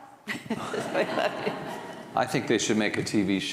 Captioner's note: audience laughing